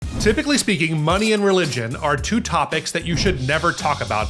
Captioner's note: upbeat music; register dings